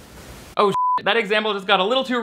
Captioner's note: beep